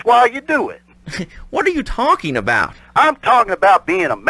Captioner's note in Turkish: gülüyor